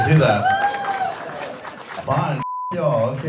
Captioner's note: audience member cheers; beep